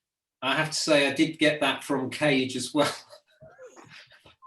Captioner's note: laughs